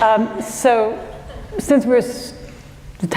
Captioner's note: laughter